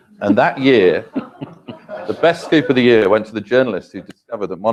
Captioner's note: laugh